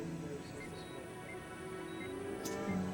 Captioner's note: ekg beeping